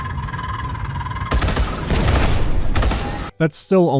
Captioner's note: deliberate gunfire